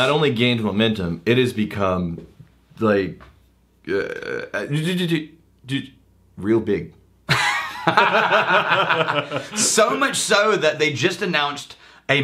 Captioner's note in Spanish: riéndose